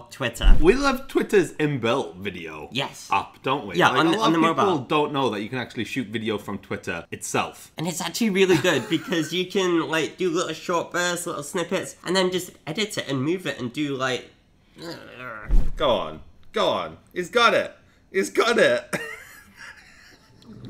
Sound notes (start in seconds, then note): 8.5 laughs; 14.8 growls; 19.0 laughs